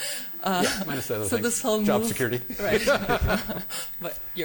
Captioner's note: laughter